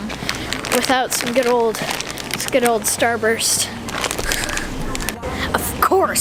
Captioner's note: laughs